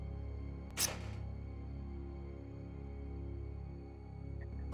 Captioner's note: pin whizzing